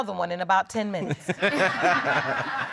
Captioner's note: all laughing